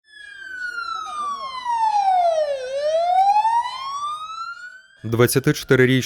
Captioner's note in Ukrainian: Лунає поліцейська сирена